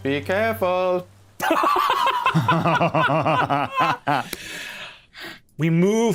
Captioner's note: laugh